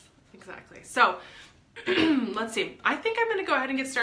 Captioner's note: clears throat